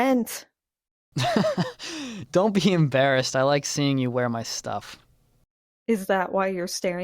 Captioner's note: laughs